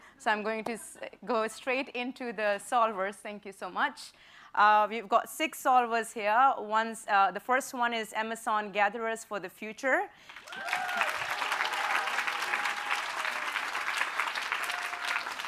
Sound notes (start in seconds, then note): 10.2 applause